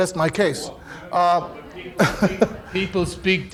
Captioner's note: audience murmuring